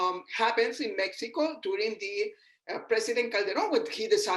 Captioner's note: murmurs